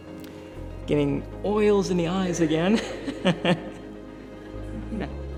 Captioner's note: laughs